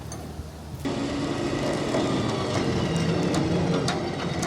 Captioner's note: machinery humming